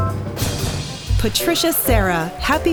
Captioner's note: applause